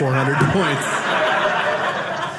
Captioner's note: audience laughing